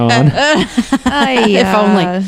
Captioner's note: laughter